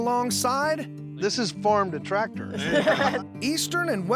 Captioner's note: everyone laughs